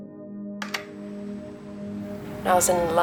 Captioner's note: tapping sound